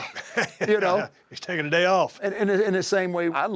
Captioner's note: laugh